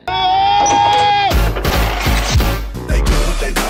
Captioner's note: man yelling